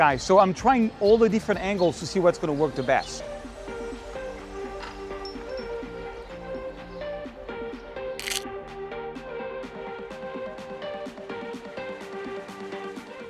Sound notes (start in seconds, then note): 3.5 soft beat music; 8.2 camera clicking